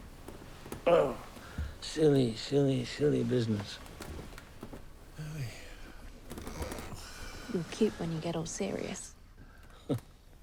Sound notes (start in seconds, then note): 5.2 Oscar sighs; 8.9 Oscar scoffs